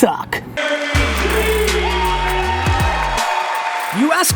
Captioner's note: voiceover